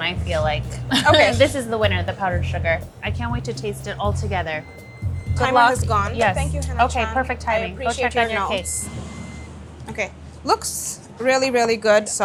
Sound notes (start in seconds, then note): 0.8 laughing; 3.1 oven beeping